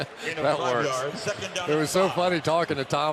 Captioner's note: laughs